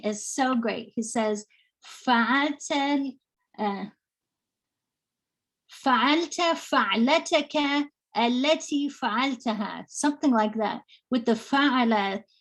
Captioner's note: speaking arabic